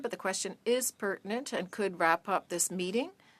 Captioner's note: speaking French